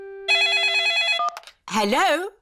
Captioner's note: phone rings